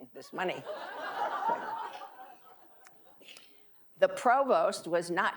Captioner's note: audience laughing